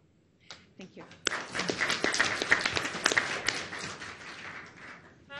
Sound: audience applauds

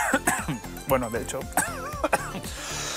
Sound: coughs

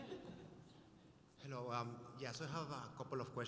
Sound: light chatter; voiceover

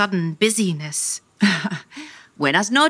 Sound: chuckling

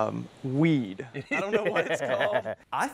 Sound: laughs

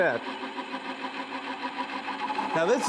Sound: machine whirring

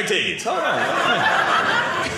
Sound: audience laughing

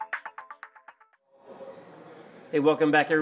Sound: crowd

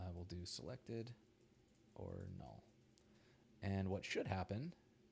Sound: none

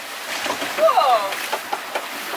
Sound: laughing; waves splashing

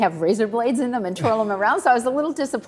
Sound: Tony chuckles

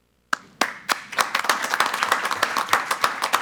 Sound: applause

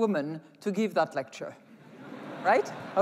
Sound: laughter

